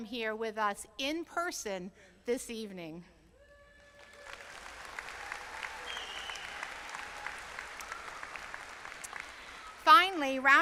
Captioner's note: applause